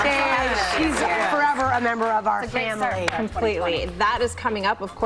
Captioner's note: cheers and applause